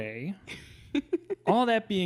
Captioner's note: laughs